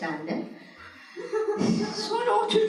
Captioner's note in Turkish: Gülüşmeler